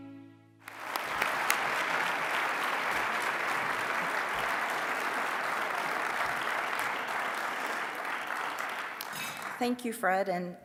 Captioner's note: applause